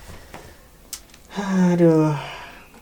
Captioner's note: phew